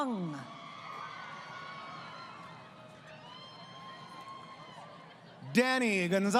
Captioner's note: crowd Cheering